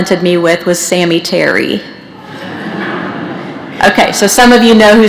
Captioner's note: laughter